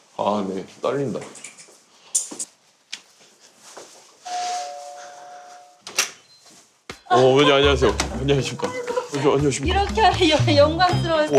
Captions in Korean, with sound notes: "아 근데 떨린다" ["띵동"] "어우 어머님 안녕하세요" - "안녕하십니까" - 아이고 - 안녕하십니까 - "이렇게 영광스러울 수가"